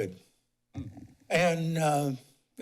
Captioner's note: pause